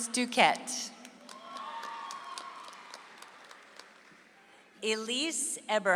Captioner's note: audience applauds